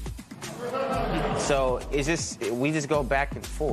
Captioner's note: laughter